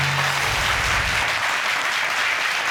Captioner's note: audience clapping